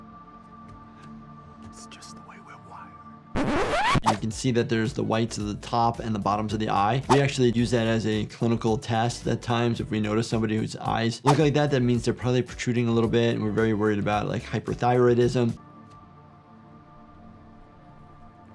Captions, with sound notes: It's just the way we're wired. (disc scratching) - You can see that there's the whites of the top and the bottoms of the eye. We actually use that as a clinical test at times. If we notice somebody whose eyes look like that, that means they're probably protruding a little bit, and we're very worried about hyperthyroidism. (ambient music)